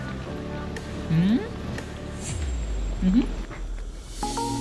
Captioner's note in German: Positives Brummen